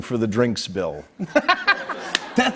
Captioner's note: laughs